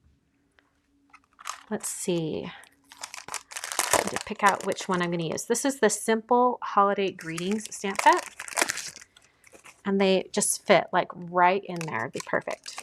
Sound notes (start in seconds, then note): 3.4 plastic crinkling